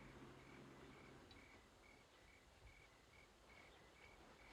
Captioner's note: crickets chirping